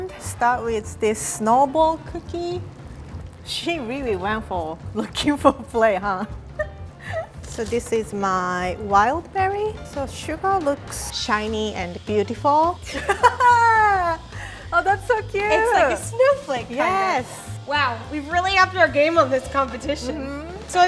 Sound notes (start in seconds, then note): 12.9 laughs excitedly